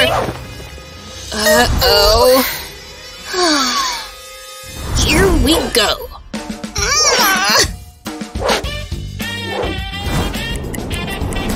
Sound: grunting in pain

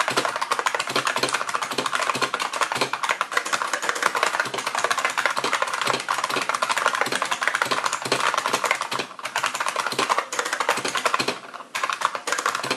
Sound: more typing

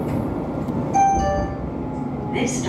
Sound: two Tone Chime

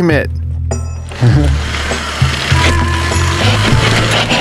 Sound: bike noises

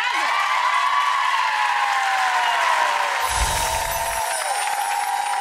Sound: audience cheering and applauding

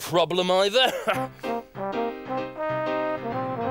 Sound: laughs

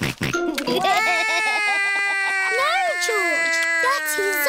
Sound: george laughs; cries

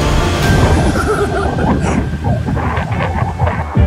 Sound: laughs

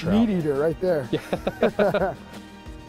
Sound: the guys laugh

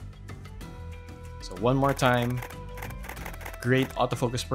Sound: camera shutters

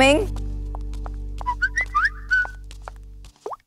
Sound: cell phone chimes

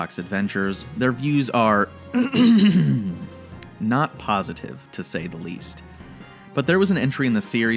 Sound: clears throat

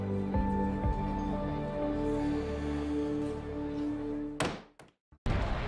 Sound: sighs

